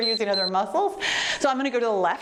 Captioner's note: timer beeps